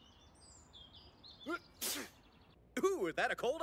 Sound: sneezing

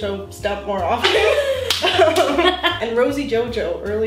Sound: laughing

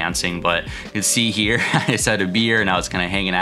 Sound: chuckles

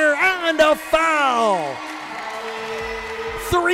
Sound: cheering

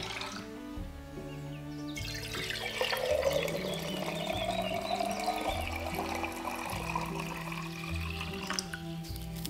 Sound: water pouring

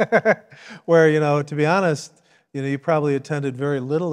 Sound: laughs

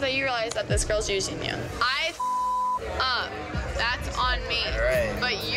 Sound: beep

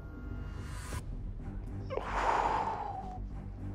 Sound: exhales heavily

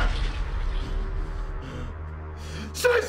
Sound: taking deep breaths

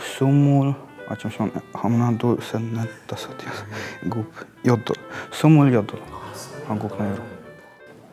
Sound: Counting in Korean

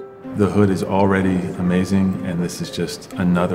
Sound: voiceover

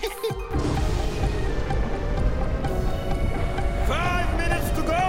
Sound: siren blaring

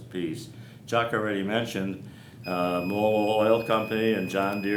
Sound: beep

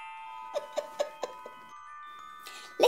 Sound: tinkly laugh

